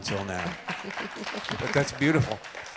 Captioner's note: audience applauds